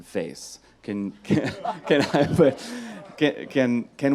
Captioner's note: laughs